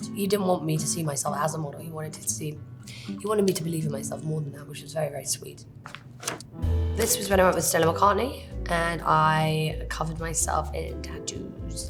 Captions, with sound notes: he didn't want me to see myself as a model, he wanted to see, he wanted me to believe in myself more than that, which was very, very sweet. [page turning] This was when I was Stella McCartney and I covered myself in tattoos,